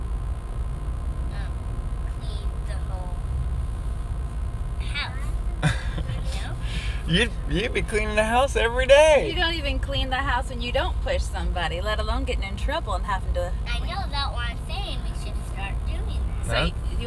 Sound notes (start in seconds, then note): 5.6 dad laughing